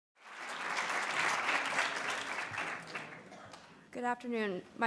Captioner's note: audience applauds